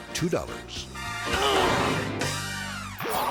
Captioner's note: man grunts; logo whooshes